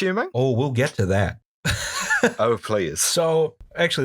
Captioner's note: laughter